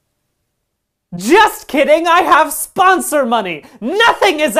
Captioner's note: yelling